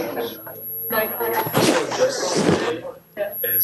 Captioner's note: speaks faintly